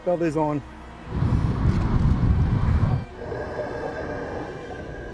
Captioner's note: humming water waves